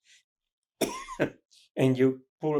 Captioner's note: coughing